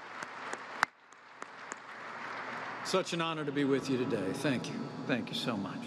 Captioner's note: applause